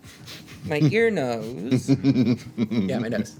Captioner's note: laughter